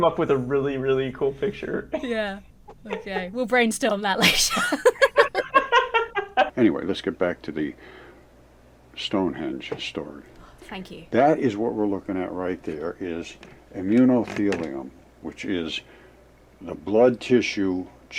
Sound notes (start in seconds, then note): 4.1 both laugh